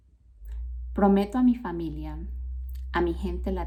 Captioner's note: speaking spanish